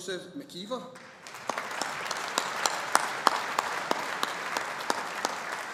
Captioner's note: audience applauding